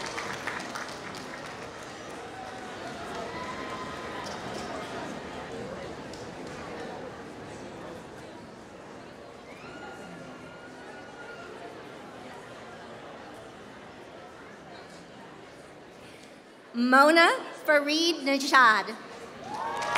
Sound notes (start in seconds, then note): 2.1 applause; 19.4 applause